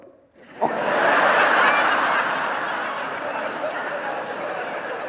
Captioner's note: audience laughing